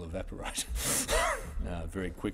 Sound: wheeze

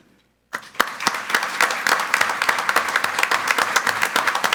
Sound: group applauding

